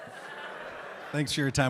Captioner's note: audience laughing